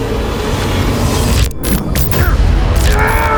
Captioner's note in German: Glitch; schmerzvoller Schrei